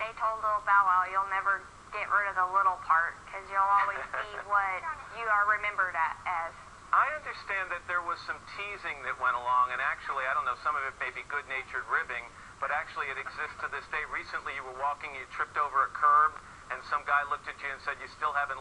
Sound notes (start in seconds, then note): 12.9 laughter